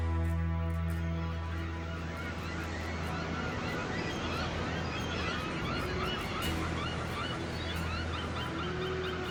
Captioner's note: cacophony of seagulls